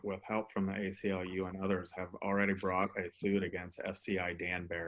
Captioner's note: murmurs